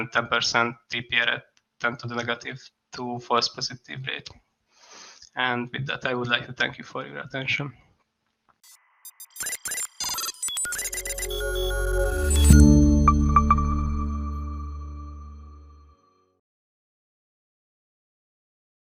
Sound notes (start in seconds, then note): 9.0 electronic beeping